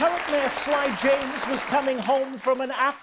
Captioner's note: audience applause